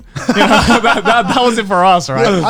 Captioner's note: laughing